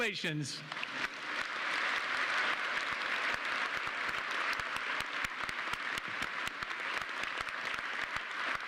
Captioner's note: applause